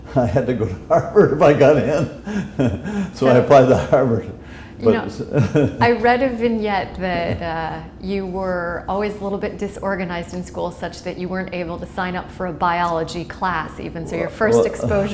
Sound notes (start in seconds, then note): 2.2 chuckle